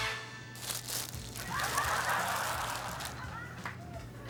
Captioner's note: laughter